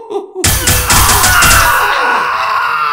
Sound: sawing

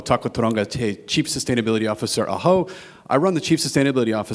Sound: speaks in a foreign language

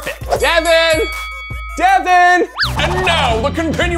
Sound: bell rings

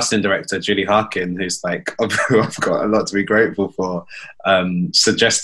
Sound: laughs

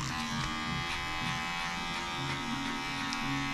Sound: razor buzzing

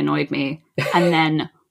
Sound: laughs

